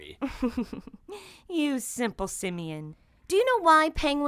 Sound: giggling

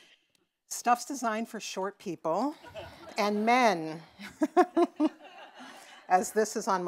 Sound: laughs

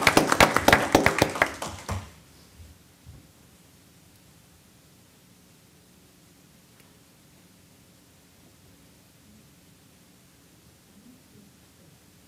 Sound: applause

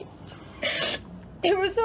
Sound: sniffles

